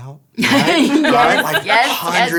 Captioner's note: laughing